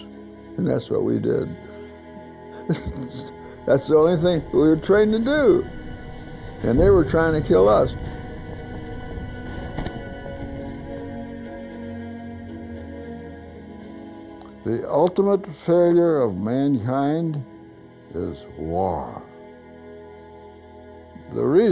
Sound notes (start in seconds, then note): 9.7 gunfire